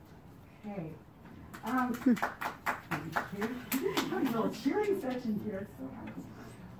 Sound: applause

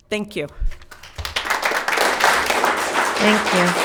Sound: spectators applauding

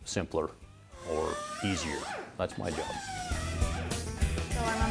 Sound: drilling

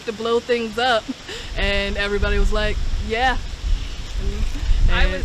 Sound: laughter

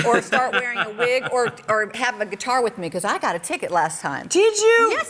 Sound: laughter

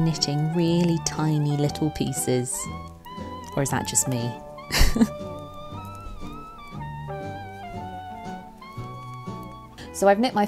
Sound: laughs

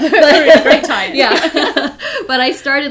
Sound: both laughing

